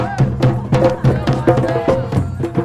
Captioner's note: crowd